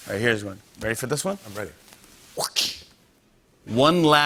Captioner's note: imitates whip crack